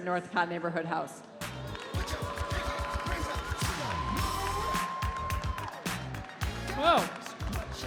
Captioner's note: upbeat music; audience cheering